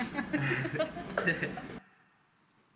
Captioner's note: hands clapping together; laughter